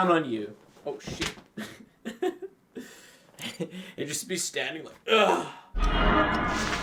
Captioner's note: laughs